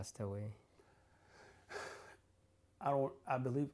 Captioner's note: sighs